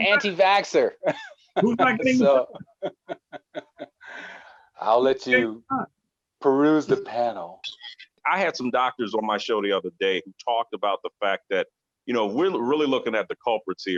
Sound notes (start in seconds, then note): 6.8 clears throat